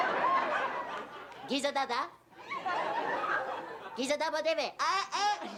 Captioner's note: laughter